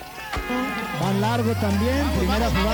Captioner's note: Spanish